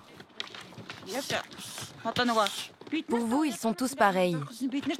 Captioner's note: foreign spoken audio